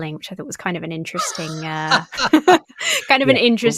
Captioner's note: laughing